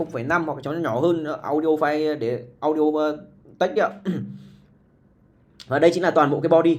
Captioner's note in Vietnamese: hắng giọng